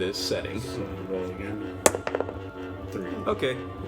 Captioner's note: dice roll